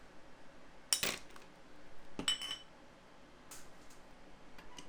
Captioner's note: glass clinking